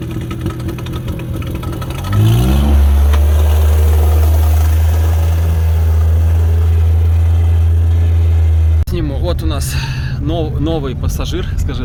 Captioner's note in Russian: Звук мотора